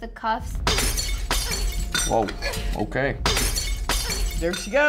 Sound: glass shatters

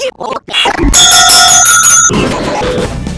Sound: this is some distored noise; bell ringing

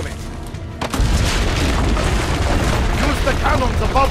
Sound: building crumbling

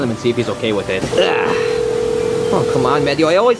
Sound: phone ringing

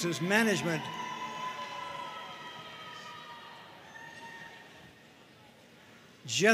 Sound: audience cheering and applauding

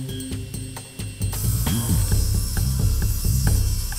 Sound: saw buzzing

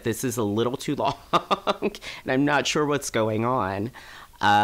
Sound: laughing

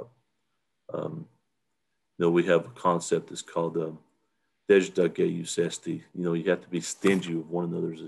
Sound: native language 00:49:52

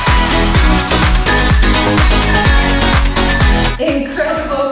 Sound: countdown timer beeping

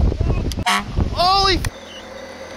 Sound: beep

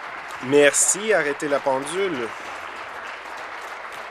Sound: applause

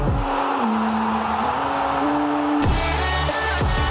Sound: crowd cheering

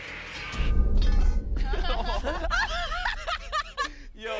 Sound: laughing

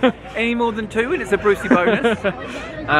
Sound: laughs

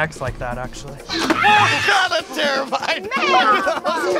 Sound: Blue roars

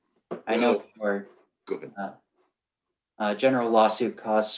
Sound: overlapping chatter

